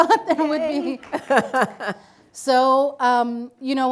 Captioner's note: laughs